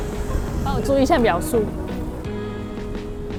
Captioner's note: traffic light countdown